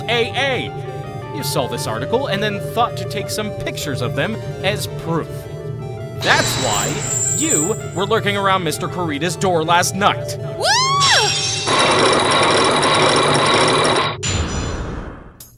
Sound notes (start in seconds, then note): 11.1 chains grinding!; 11.2 lock shatters!